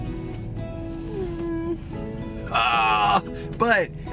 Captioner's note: Kelly whimpers